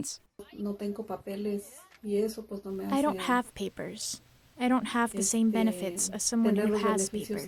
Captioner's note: through translator